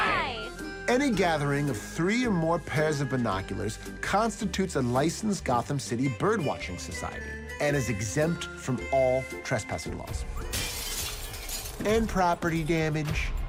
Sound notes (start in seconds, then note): 10.4 glass crashing